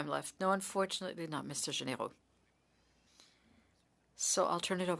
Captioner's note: speaking French